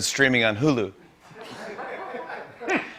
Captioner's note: laughter